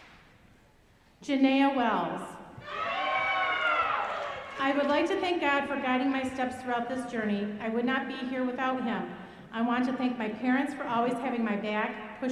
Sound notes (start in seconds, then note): 2.6 audience cheering